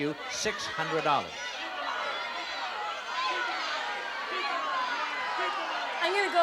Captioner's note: yelling